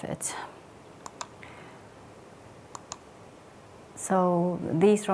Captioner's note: remote clicking